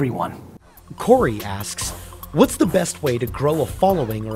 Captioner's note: voiceover